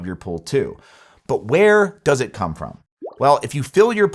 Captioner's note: graphics pop